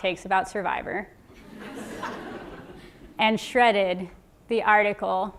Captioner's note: laugh